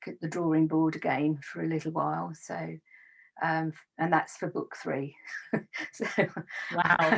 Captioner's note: laughs